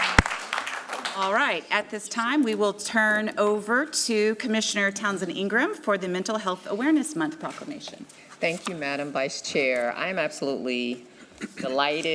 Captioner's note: applause